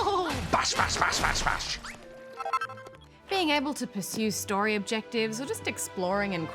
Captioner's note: laughs